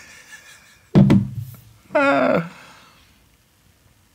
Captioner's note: chuckles